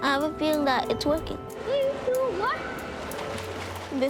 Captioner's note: echoing voice, splashes